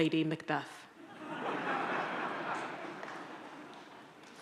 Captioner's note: audience laughs